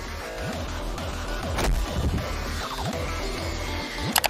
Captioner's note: upbeat music; body thudding; mouse clicking